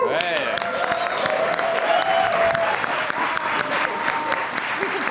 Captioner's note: applause